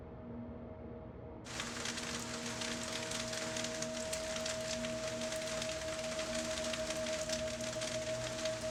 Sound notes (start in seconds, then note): 1.4 rain pattering